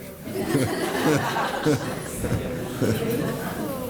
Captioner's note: laughter